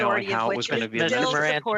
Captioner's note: mixed voices